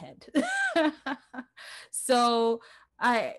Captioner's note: laughs